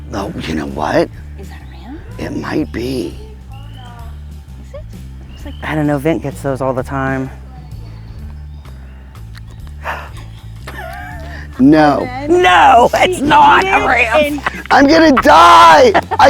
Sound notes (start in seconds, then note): 3.6 gatherers murmuring; 7.0 jazz fusion music continues; 9.8 laughing